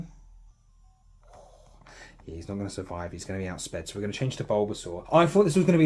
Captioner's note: exhale